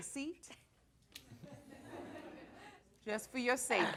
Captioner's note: audience chuckles